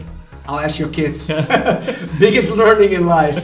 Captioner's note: laughs